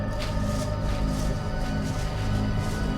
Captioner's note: leaves rustling; ominous music